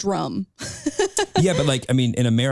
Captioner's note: laughing